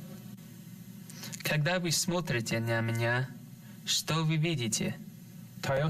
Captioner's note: speaking in another language